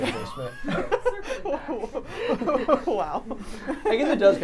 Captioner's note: laughs